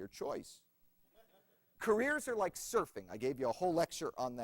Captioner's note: laughter